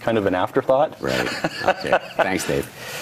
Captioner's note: laughs